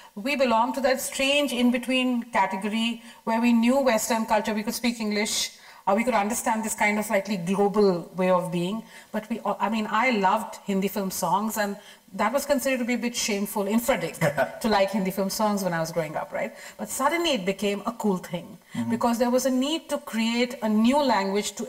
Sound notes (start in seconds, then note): 14.2 chuckles lightly